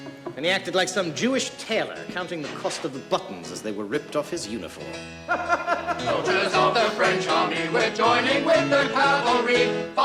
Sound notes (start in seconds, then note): 5.2 man laughing; 5.7 playing piano